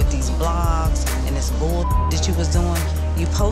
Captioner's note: beep